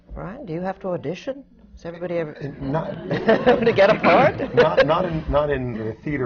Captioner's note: laughter